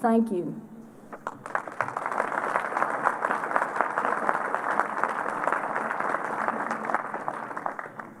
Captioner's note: applause